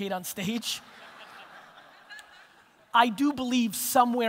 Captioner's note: audience laughter